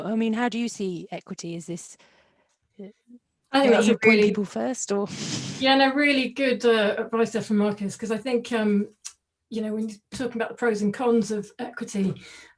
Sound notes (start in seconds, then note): 5.4 laughs